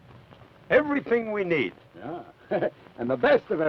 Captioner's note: chuckles